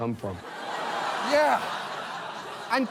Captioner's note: audience exclaims